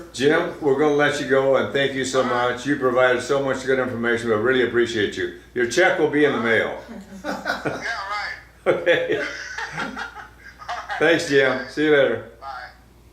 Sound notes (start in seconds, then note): 8.6 laughs